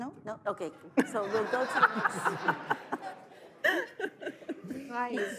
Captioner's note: audience laughs